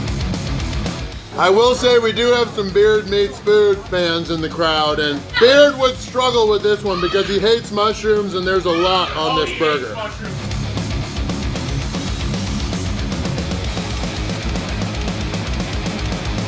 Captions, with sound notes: mushrooms and there's a lot on this burger. [Crowd] Oh he hates mushrooms! I will say we do have some Beard Meats Food fans in the crowd and Beard would struggle with this one because he hates